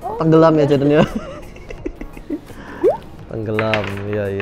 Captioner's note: chuckles